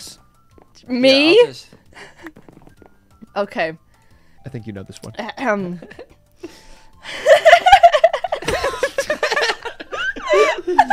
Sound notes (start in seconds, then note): 5.2 coughs; 7.2 laughs